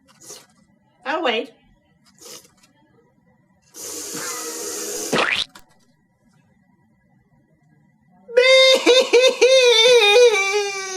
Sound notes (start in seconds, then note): 3.3 giant lick of ice-cream; 5.1 splat!; 8.4 bursts into tears